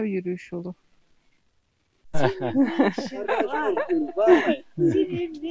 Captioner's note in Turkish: kahkaha